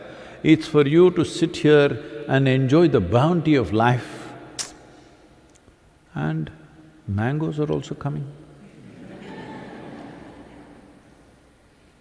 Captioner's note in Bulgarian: смях